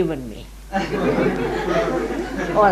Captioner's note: laughter